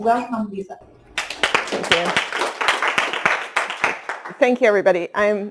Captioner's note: clapping